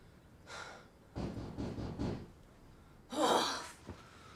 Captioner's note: knocking